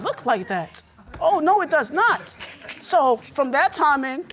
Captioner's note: laughing